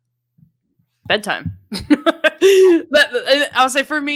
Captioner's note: laughing